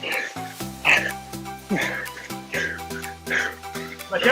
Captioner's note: breathing hard